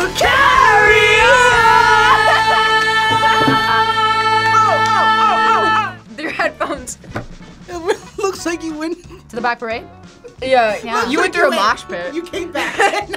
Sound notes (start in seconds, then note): 7.2 laughs